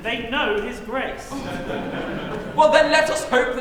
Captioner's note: laughter